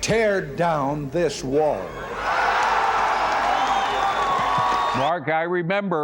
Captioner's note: cheers and applause